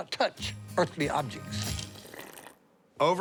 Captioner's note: slurps drink